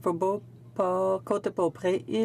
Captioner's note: speaking French